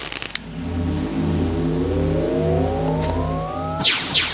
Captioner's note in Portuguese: Zumbido elétrico